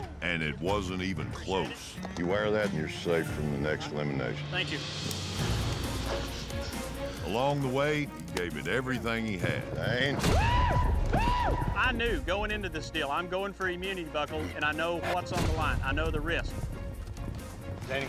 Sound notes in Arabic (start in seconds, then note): 10.2 صوت دوي، صراخ